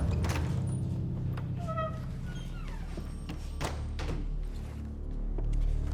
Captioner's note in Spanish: ruido al entrar